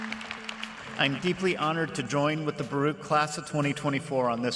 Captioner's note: applause